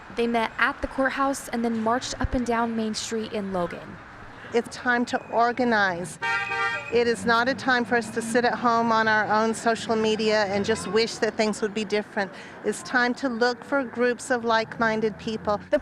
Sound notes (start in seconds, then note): 6.1 a car honks